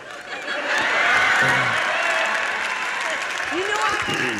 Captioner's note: audience applauds